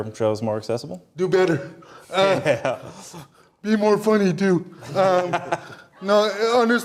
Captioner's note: laughter